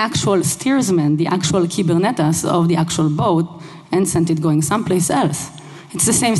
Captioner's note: speaking another language